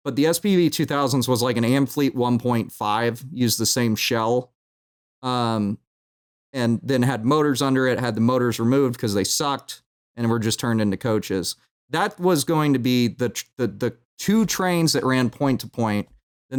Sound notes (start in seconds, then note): none